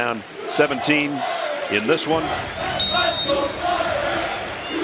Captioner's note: whistle